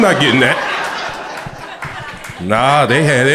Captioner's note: crowd laughter